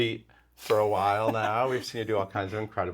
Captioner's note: Nikki laughs